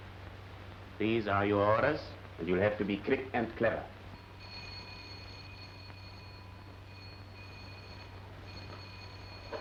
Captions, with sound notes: These are your orders, and you'll have to be quick and clever. (doorbell rings)